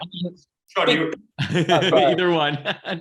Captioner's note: all laugh